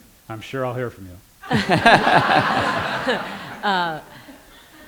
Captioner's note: laughter